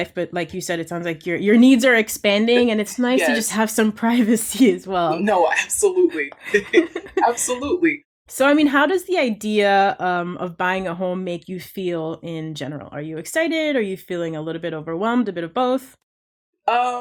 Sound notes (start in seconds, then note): 5.1 laughing; 5.2 chuckling